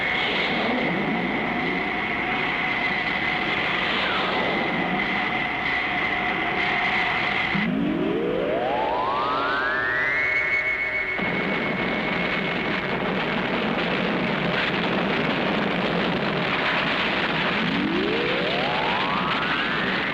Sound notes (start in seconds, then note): 11.2 missiles detonating; 17.2 radar pulsing